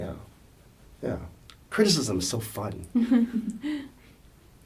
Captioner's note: laughs